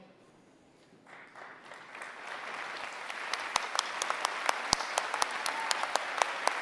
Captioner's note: applause